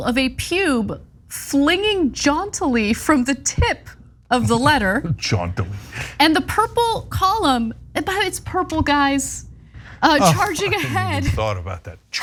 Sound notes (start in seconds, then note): 5.4 laugh